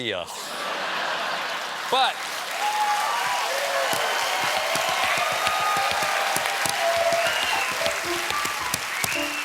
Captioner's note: cheers and applause; piano riff